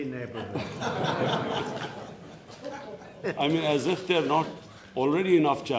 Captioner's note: laughter